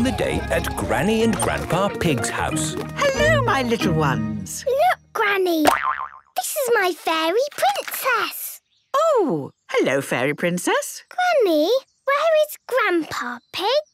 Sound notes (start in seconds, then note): 5.6 boing!